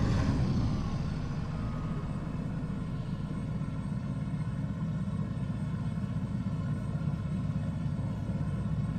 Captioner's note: loud rumbling